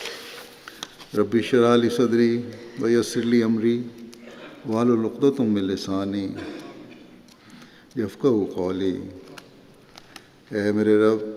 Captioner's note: Arabic